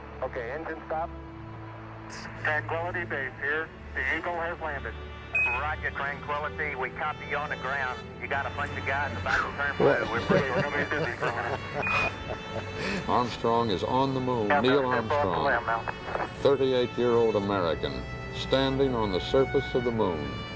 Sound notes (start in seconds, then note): 8.2 garbled radio communication; 9.7 laughters